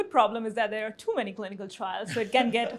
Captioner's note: chuckles